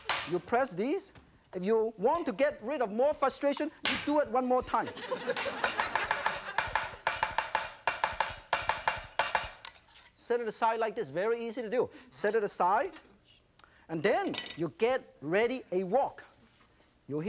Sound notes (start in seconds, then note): 4.8 audience laughing; 5.4 knife chopping noise